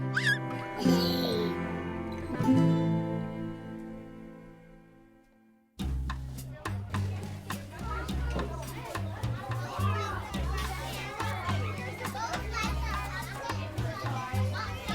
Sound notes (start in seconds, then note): 0.0 baby laughs; 6.6 upbeat music; 8.9 kids chattering